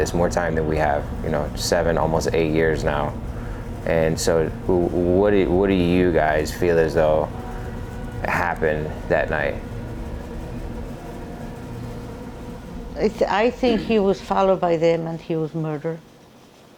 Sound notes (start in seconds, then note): 10.0 eerie music; 10.0 fan rattling; 16.5 fan rattling